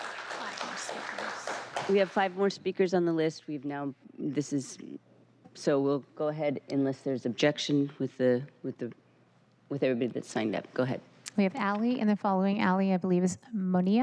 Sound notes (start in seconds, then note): 1.9 applause